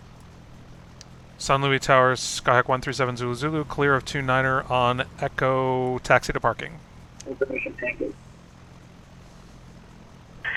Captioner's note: me on radio